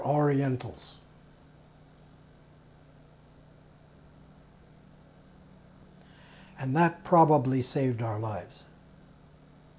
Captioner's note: pauses 6 seconds